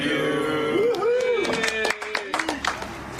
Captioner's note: whoops and applauds